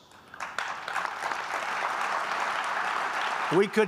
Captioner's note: applause